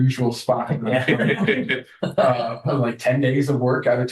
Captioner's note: laughter